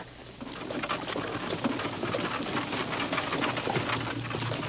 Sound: wagon rattling

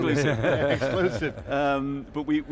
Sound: laughing

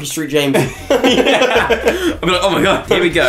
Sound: laughter

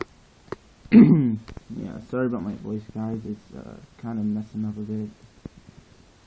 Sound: cough

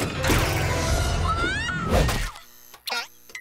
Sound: screaming

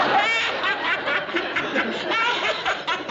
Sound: both laugh

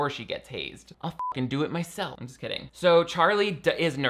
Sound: beep

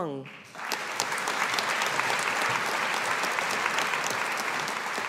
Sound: audience applauding

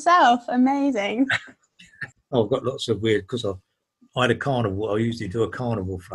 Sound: laughing

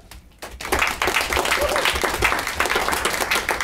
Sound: clapping

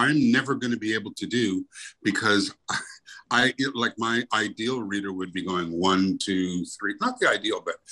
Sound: chuckles

